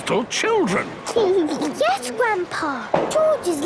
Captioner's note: giggles